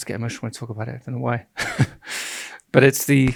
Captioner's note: chuckles